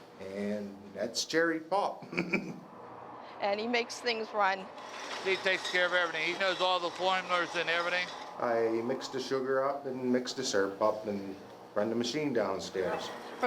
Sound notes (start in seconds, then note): 2.0 chuckling